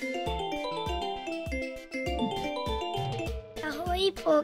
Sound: Porci's phone ringing

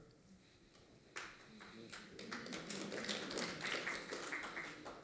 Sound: applause

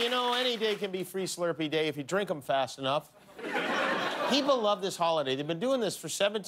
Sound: cheers and applause

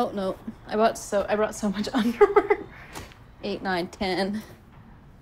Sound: laughing

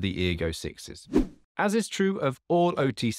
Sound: air whooshing

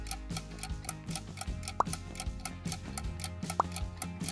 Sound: pop

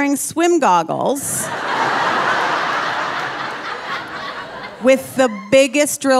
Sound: audience laughing

